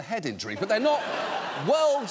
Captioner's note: audience laughing